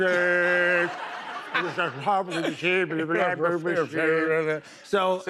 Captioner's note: speaking gibberish